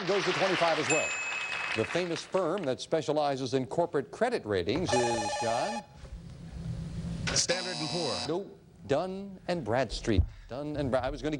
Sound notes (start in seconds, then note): 4.8 beeping; 6.4 buzzing